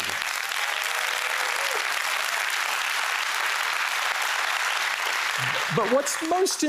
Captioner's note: applause